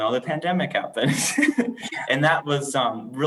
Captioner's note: laughter